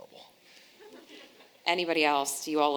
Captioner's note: audience laughing